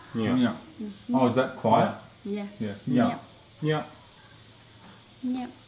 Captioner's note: foreign language; foreign language